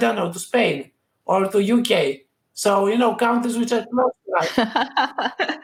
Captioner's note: both laugh